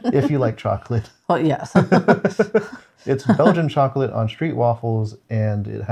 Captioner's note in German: lacht